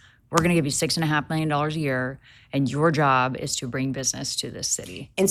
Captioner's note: none